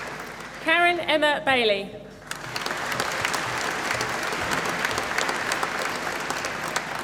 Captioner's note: applause